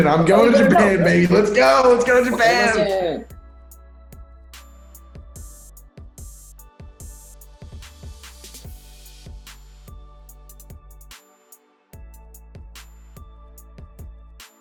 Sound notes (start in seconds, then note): 3.5 speaking Japanese; 5.3 chilled music